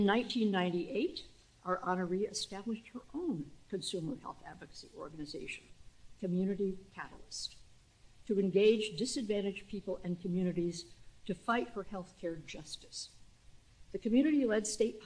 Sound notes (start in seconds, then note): none